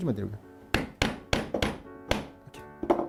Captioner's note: hammering sound